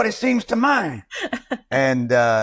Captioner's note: laughs